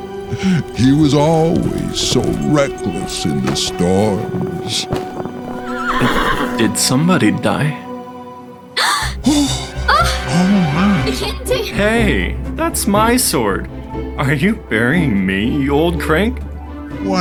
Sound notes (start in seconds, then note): 5.4 horse neighs; 8.8 Leif and Aravella gasp